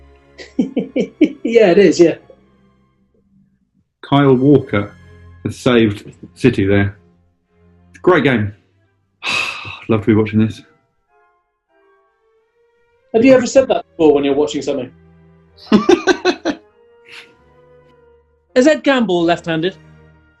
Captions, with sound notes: [CHCUKLING] Yeah, it is, yeah. Kyle Walker... has saved City, there. It's a great game. [SIGHS] I'd love to be watching this. Have you ever said that before, when you're watching something? [LAUGHING] Is Ed Gamble left handed?